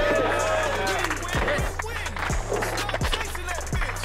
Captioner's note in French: applaudissement